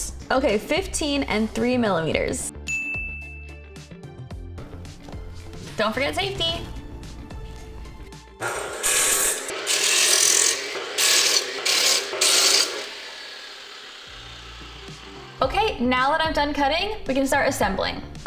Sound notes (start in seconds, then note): 2.7 dinging; 8.4 sawing